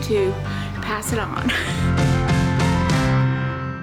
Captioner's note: laughs